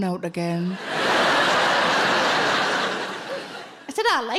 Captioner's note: audience laughing